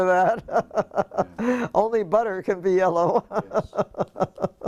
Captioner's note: laugh